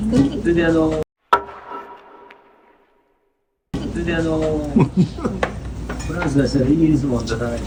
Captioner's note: laughs